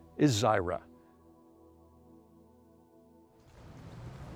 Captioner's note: car zooming